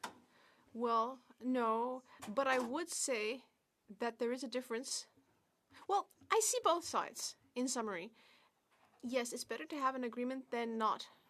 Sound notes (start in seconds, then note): 1.3 speaking French